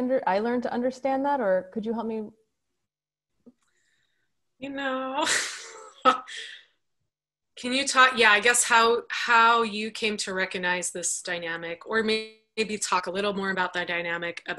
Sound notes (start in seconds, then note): 6.4 laughs